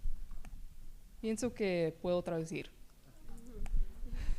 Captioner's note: speaking spanish